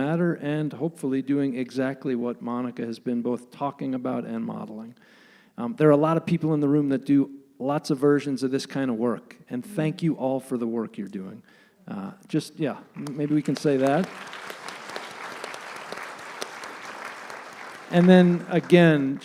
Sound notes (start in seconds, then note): 15.9 applause